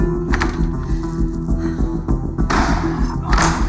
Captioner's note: grunting with effort